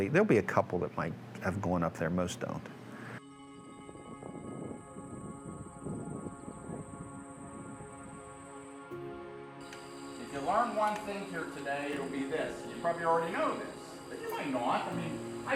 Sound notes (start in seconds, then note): 3.6 soft music; 3.8 wind whooshing